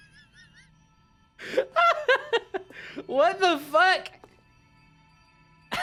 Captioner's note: laughing; laughs at nature